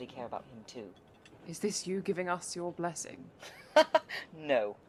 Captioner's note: Remus laughs